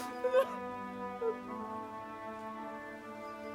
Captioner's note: Thor cries